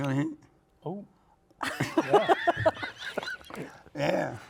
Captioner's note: all laugh